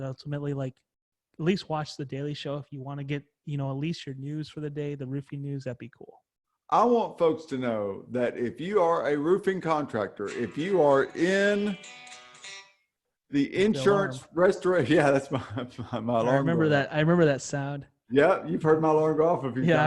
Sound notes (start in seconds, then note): 10.4 Phil's phone rings